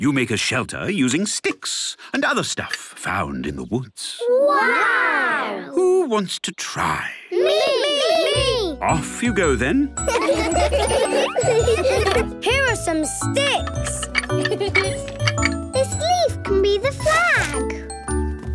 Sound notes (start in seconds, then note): 10.0 laughter; 14.9 laughing